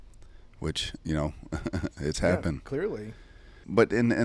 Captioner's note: chuckles